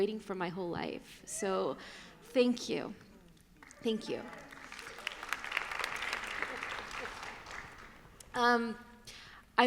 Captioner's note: applause